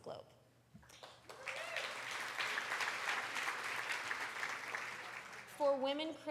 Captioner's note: applause